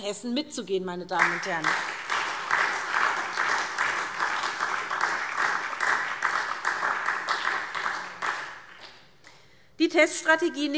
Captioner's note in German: Beifall SPD und DIE LINKE